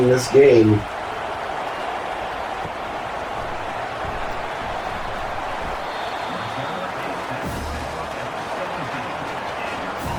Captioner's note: crowd Noises